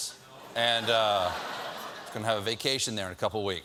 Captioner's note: laughter